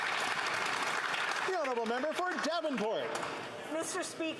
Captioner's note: applause